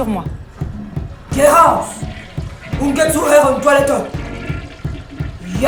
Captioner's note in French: en allemand